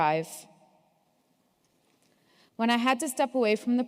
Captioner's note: none